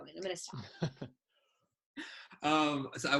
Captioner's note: laughs